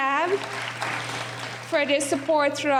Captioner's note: applauding